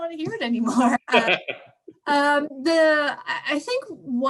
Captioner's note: laughs